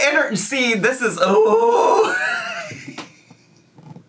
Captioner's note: laughs